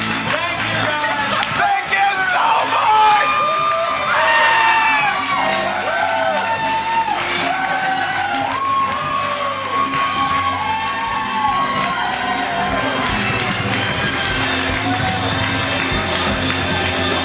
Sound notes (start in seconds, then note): 3.7 cheers & applause; 13.4 applause